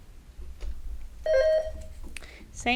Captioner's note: bell rings